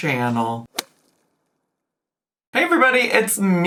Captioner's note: air pops